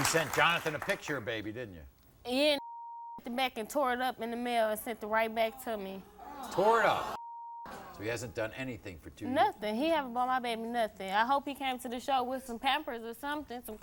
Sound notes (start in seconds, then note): 2.6 beep